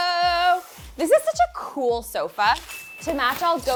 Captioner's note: bell dings